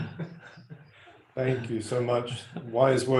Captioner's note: laughing